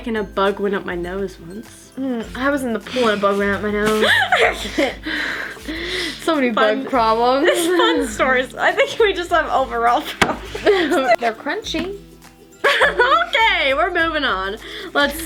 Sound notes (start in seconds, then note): 4.0 laughing; 12.6 laughing